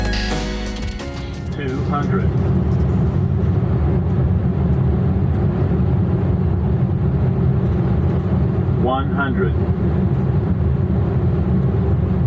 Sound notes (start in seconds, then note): 1.9 electronic Voice; 3.9 jet engine rumbling